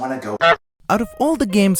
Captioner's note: honk